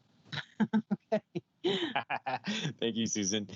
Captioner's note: laughs